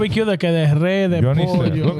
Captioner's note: speaking In Foreign Language